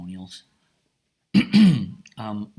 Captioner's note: clears throat